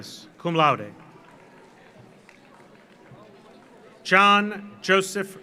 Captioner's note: audience applauds